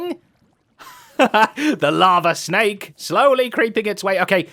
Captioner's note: laughs